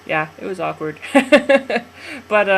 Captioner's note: laughs